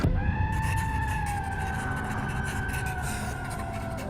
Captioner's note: person yells